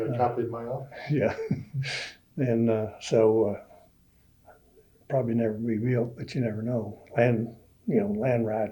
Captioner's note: laughs